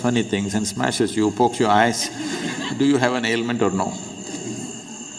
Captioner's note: laughter